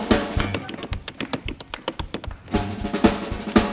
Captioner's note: drums banging; tapping; drums banging